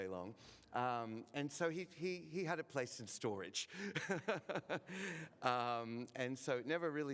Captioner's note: laughs